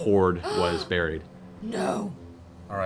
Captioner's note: gasps